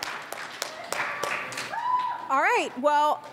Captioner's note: audience applauds